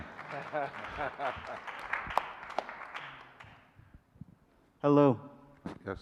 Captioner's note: audience applauding